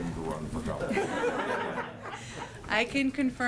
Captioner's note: laughter